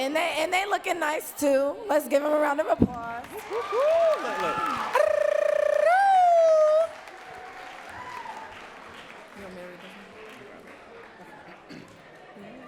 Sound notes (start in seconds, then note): 5.4 audience cheering and clapping